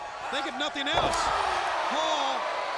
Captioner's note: audience exclaiming